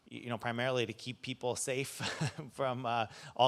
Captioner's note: chuckles